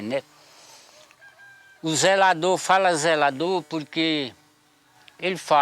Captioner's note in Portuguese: Canto de galo